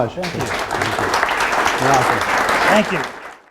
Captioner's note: audience applauds